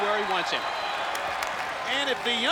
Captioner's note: crowd cheering; ref claps